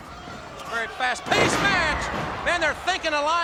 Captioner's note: footsteps plodding; body thudding